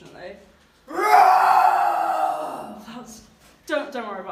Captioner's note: dragon roars